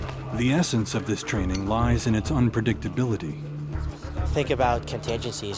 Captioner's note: voiceover